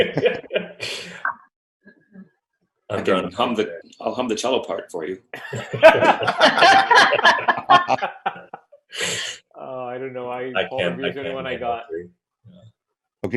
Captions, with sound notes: - I can't hum today, I'll hum the cello part for you. (laughing) - Oh I don't know Paul Revere is the one I got - I can't, I can't get three.